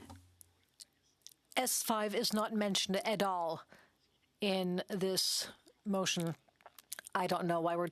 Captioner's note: speaking French